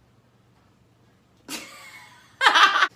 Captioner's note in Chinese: 爆笑